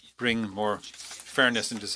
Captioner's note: speaking French